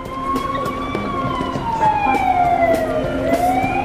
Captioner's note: street noise, sirens, street music